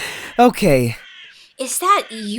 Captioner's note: laughs